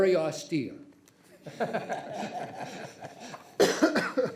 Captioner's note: people laugh